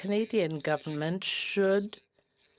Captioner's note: speaking French